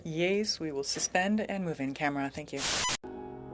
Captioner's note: speaking French